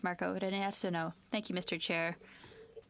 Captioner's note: speaking French